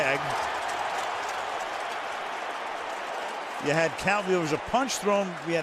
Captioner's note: cheering